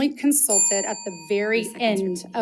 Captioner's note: bell dings